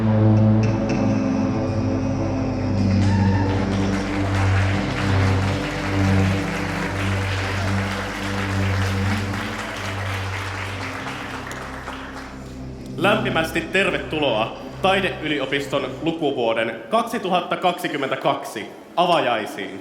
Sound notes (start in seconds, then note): 3.0 applause and cheering